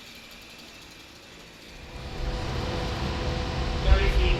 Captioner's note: chain rattling